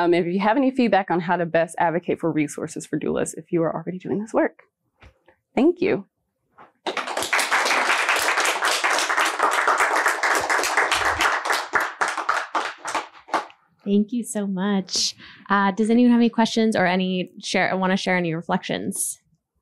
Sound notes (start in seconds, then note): 6.8 applause